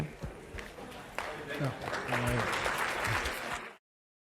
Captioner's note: applause